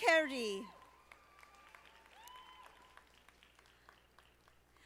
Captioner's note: audience applauding